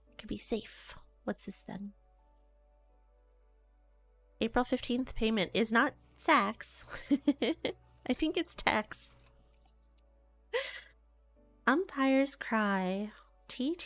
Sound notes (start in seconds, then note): 6.9 giggles